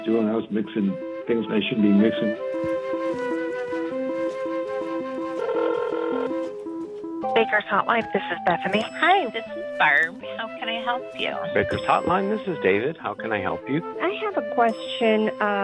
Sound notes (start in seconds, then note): 2.8 gentle music; 5.5 phone ringing